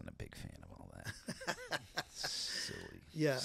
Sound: laughing

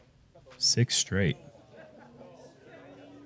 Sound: none

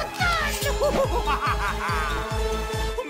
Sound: laughter

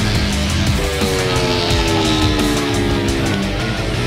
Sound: laughing

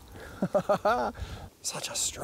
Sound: laughs

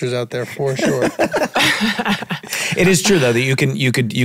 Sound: all laughing

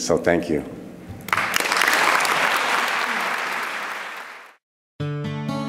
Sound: applause

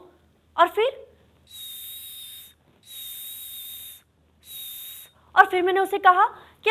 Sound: whistles like making a baby to pee

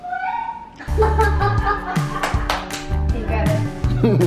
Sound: laughing

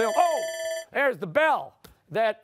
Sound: timer sounding

